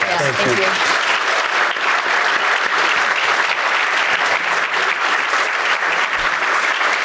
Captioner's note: audience laughing